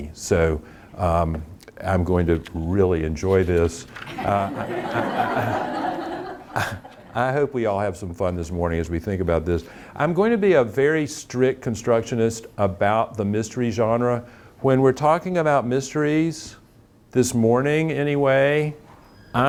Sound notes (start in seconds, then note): 4.0 audience laughing